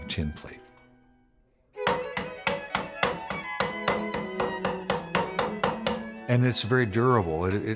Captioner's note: hammering metal